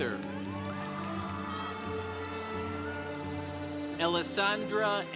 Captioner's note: congregation cheering